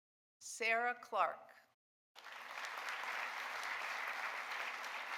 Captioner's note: audience applauding